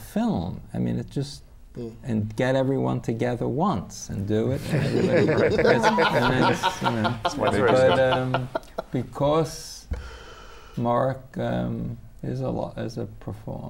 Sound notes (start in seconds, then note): 8.9 laughs